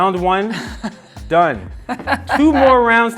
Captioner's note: laughing